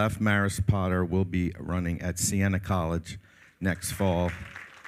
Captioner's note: all applaud